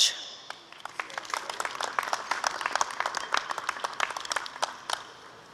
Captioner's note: applause